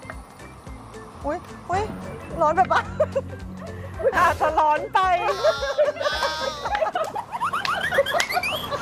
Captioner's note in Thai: เสียงหัวเราะ